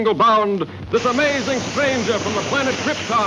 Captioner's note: fuse sizzling